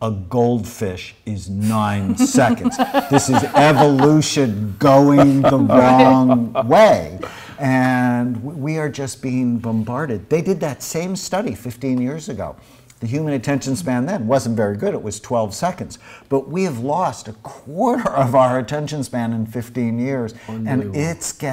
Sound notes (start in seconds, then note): 2.0 all laugh